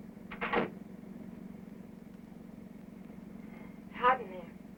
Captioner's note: door closing